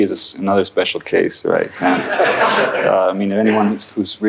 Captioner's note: laughter